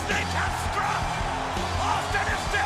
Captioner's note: audience cheers